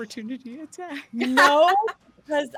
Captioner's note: laughing